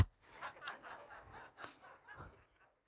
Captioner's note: the audience laughs